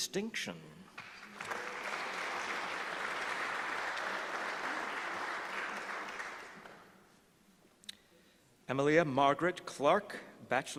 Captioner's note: applause